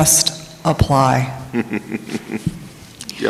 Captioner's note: chuckling